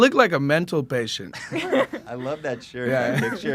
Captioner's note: laughs